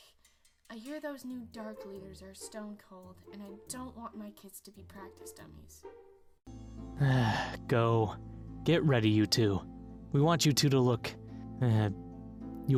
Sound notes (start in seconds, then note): 6.9 Lucas sighs